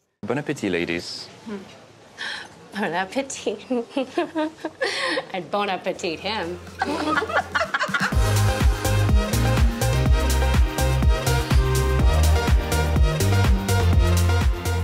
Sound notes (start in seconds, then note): 3.7 giggles; 6.8 laughs; 8.2 upbeat music